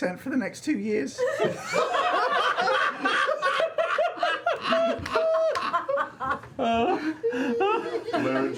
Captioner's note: laughter